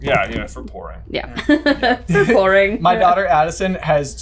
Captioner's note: laughing